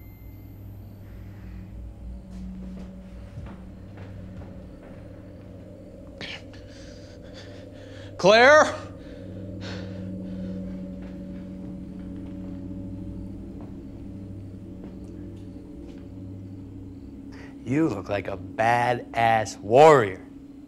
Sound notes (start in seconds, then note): 0.3 crickets chirping; 2.4 tense music; 5.8 Ben gasping; 11.4 crickets chirping; 11.4 tense music; 20.4 crickets chirping